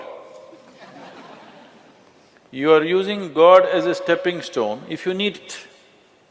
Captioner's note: laughter